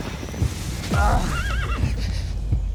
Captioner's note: fast hoofbeats; big thud, groans